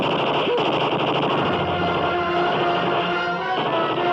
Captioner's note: machine gun fires